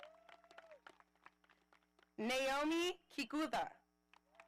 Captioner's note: audience applauding